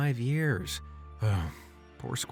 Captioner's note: sigh